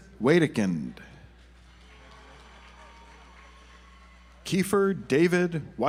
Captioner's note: audience applauds